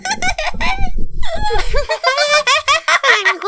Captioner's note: chuckles lightly